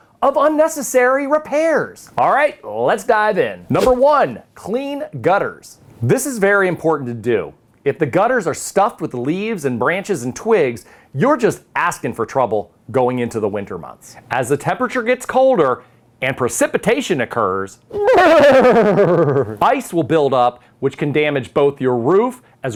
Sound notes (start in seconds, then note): 3.7 text whooshes